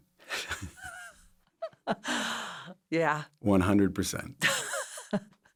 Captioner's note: laughs; laughs